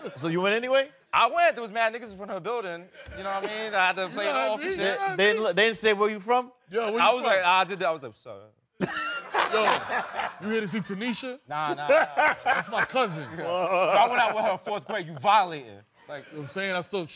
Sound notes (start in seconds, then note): 8.8 laughing